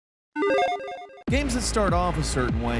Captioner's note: sound effect bleeping